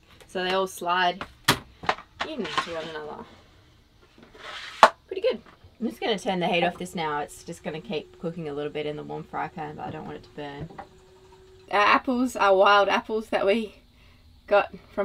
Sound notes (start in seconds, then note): 4.1 sliding